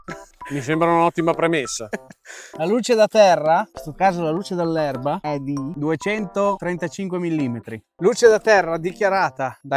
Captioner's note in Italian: risate